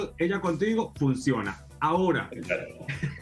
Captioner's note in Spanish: risas